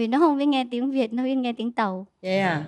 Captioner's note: Vietnamese